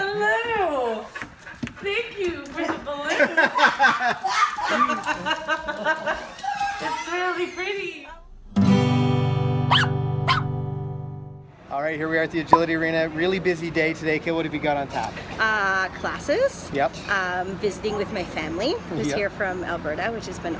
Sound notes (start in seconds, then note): 2.7 laughing; 9.6 puppy barking